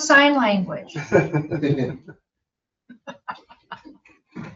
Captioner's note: all laughing